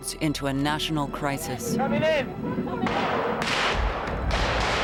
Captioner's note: gunshots